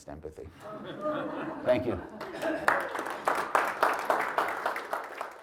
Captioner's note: audience laughs; audience claps